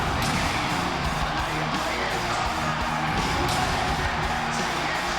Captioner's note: audience whistling